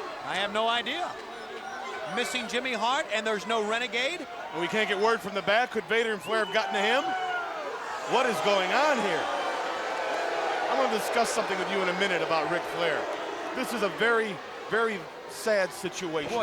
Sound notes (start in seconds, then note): 9.8 crowd booing